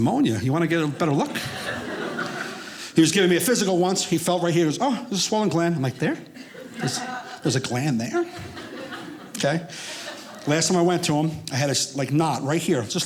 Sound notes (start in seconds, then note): 0.8 audience laughing